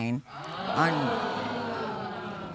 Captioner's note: audience exclaiming